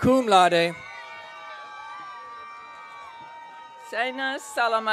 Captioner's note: audience cheering